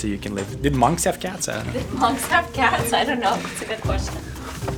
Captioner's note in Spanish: Ríe